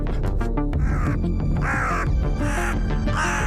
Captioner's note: raven cawing